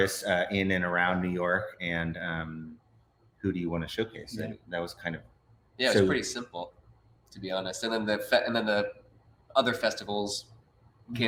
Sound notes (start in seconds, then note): none